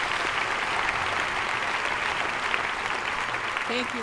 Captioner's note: applause